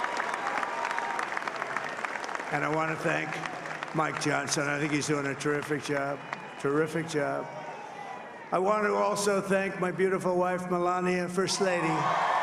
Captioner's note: cheering and applause